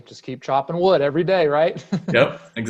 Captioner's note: laughs